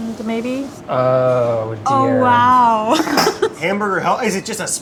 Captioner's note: laughs